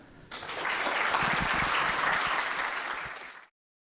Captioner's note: applause